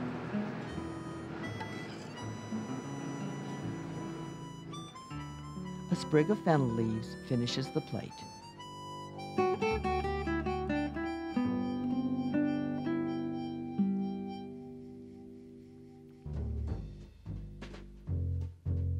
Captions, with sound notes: - [Voiceover] A sprig of fennel leaves finishes the plate. (jazz music)